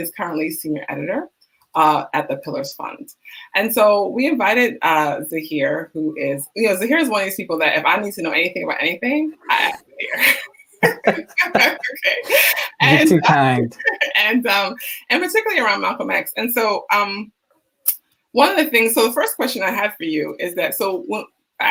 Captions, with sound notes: and he is currently senior editor at the Pillars Fund. And so we invited Zaheer Who is, Zaheer is one of these people that if I need to know anything about anything (laughing) - You are too kind. - And emphatically around Malcolm X, and so, one of the things so the first question I have for you is that so what